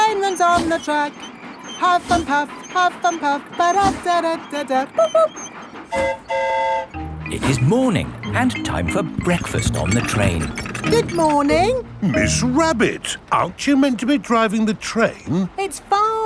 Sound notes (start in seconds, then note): 5.8 train whistle toots; 5.8 mimics train whistle